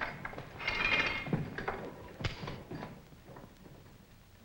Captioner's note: chain clinks